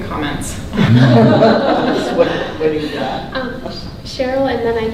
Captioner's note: group laughing